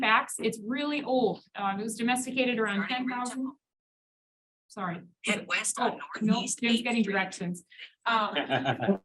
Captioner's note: audience laugh